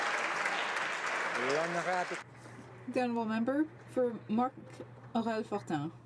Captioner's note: some Applause